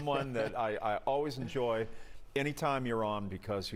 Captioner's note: laughter